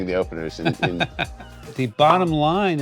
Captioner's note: laughs